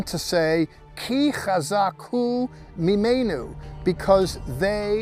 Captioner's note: speaking Hebrew